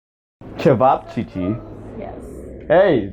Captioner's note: roommate in background: What's up h*es?